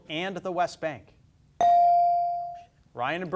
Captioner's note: beep